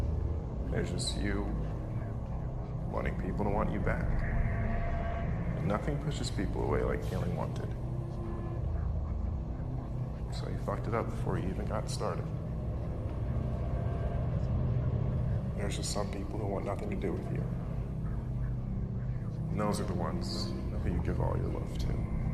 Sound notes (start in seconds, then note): none